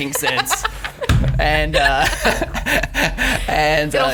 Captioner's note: laughs